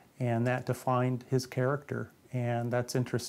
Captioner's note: none